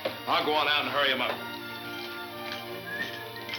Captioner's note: whistles